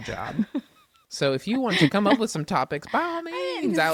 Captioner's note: laughs